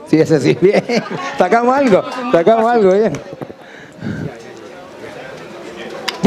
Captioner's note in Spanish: risas